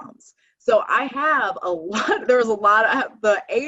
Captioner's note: chuckling